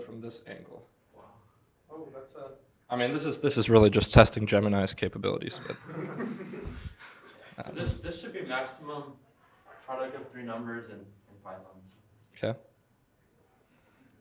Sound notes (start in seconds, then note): 5.5 laughter